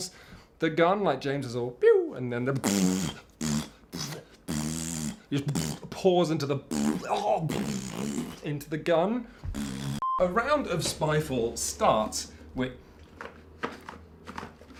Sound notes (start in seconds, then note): 3.9 makes blood squirting sound effects; 6.7 pbbbft, aah! ppbbbbft; 9.4 pbbffftt; 14.2 the box rattles, but nothing comes out